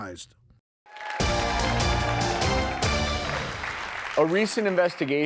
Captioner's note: crowd cheers and applauds